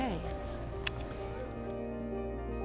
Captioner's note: lips smacking; gentle music